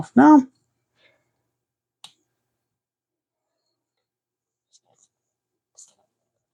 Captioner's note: clicking